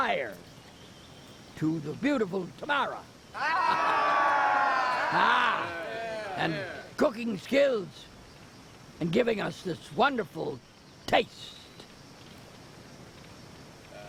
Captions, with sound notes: to the beautiful Tamira (cheering) and cooking skills and giving us this wonderful taste.